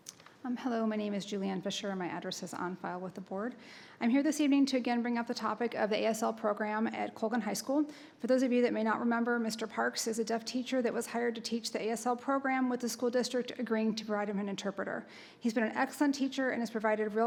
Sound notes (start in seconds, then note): none